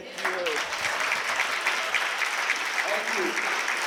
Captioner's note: applause